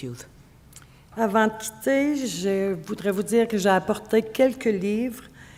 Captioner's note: speaking French